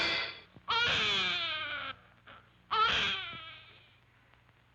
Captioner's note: infant wails